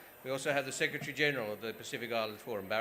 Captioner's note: none